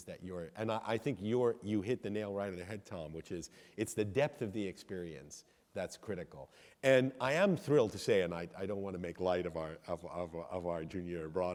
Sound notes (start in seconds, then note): none